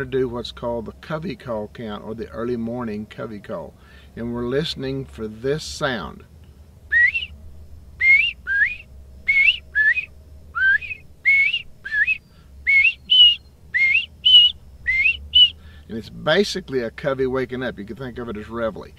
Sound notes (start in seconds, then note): 8.0 whistles